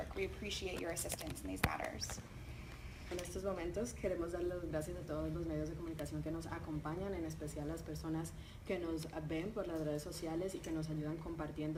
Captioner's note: talking in Spanish